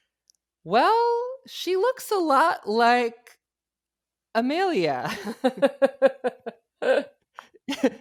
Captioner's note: laughs